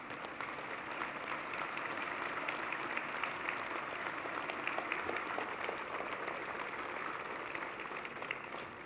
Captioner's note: applause